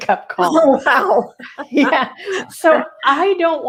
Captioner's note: laughing